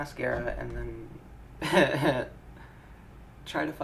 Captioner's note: wry laughter